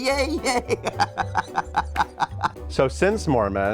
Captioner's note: laughs